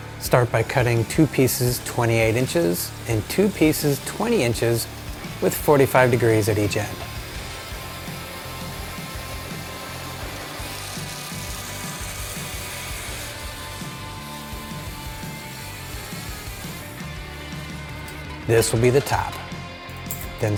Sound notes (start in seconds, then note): 7.6 intense rock music; 7.6 machinery whirring